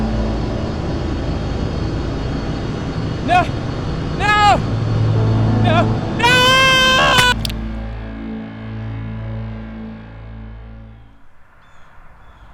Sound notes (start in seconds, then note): 7.1 ax chops